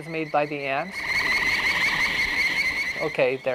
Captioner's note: buzzing